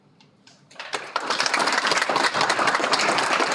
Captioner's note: Aplodit